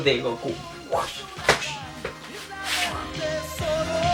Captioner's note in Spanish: sonidos de extracción del báculo